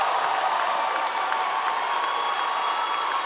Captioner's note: applause